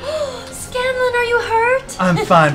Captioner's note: gasps